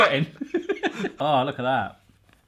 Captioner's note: both laughing